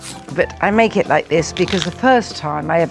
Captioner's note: vegetable crunching; stem crunching